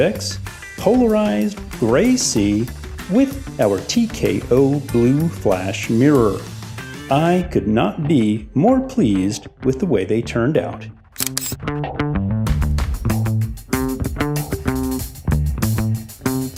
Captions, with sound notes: polarized gray C with our TKO blue flash mirror. I could not be more pleased with the way they turned out. (camera shutter snapping)